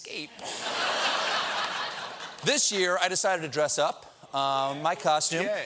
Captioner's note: laughter